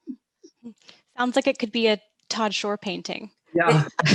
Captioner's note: laughing